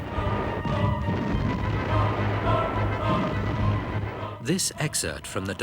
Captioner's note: explosions booming; dramatic symphonic music